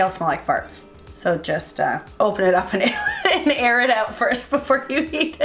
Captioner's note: laughing